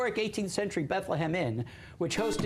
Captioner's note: buzzer